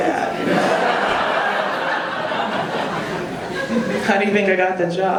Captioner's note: audience laughing